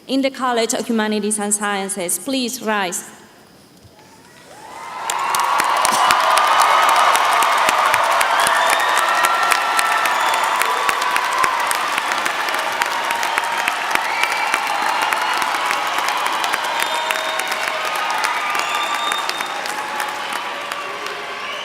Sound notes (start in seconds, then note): 4.4 applause